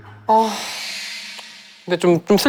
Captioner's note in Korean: 한숨